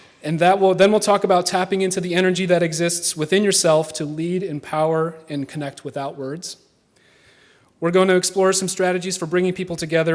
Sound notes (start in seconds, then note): none